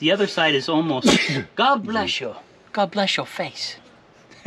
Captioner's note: sneezing